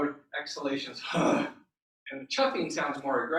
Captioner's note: deep grunting exhale